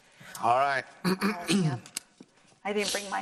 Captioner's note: clears throat